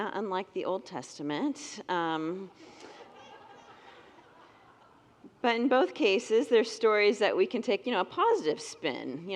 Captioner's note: congregants laugh